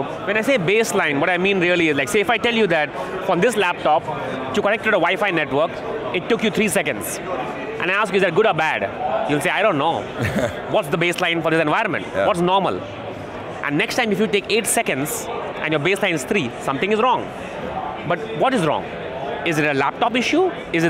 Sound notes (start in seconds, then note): 10.1 laughs